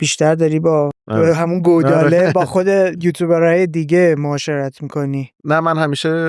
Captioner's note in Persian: خنده